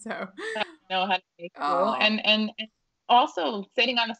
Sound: audio distorting

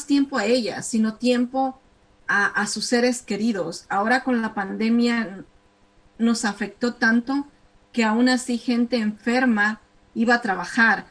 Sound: speaking spanish

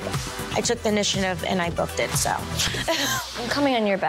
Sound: giggles

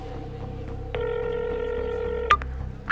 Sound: phone noise

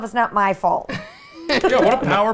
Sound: laughs

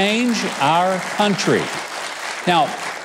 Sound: audience applauding

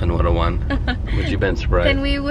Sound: laughs

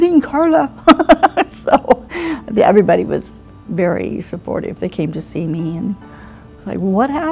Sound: laughter

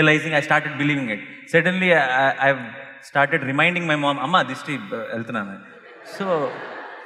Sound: laughter

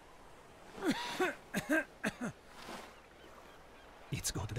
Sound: coughing

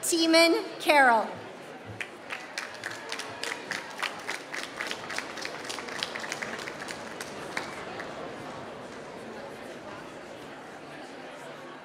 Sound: applause

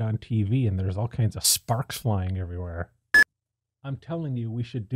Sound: beep

